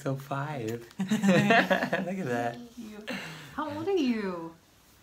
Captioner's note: laughs